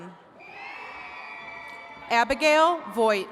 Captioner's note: attendees cheering